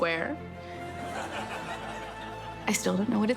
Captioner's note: studio audience laughs